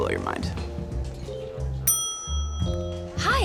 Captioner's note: bell dings